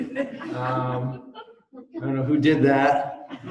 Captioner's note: laughter